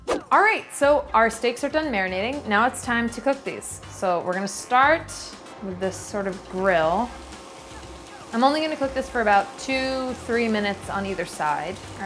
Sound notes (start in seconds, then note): 0.0 upbeat music; 7.6 steak sizzling